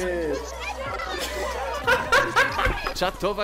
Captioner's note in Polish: śmieje się